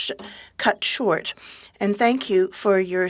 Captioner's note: speaking french